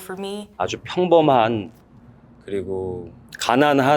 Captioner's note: speaks Korean